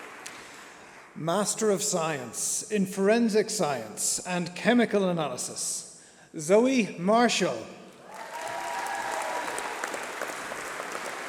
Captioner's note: applause